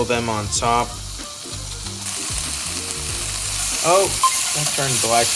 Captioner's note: pan sizzles